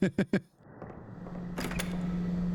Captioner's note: laughter